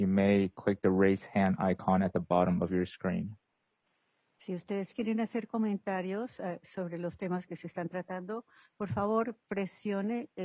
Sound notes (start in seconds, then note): 4.7 speaking foreign language